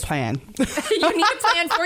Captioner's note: laughter